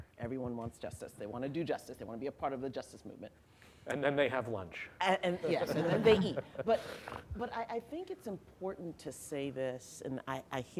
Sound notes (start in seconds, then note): 5.4 laughter